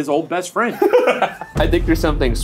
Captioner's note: laughing